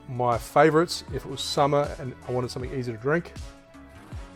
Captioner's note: none